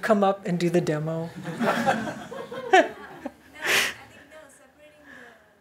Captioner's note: laughter